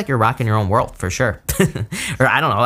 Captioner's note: laughs